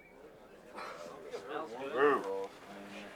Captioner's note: voiceover